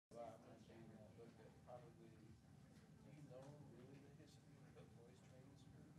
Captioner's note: committee conversing indistinctly